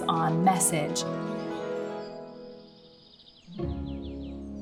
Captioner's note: birds chirping